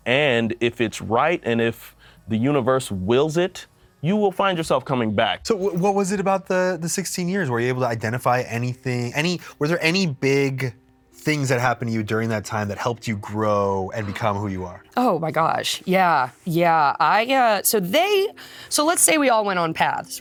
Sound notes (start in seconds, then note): none